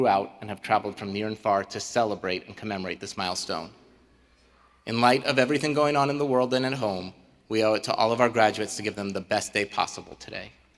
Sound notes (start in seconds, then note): none